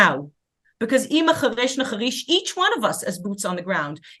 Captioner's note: speaking hebrew